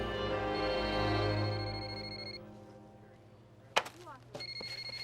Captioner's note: phone ringing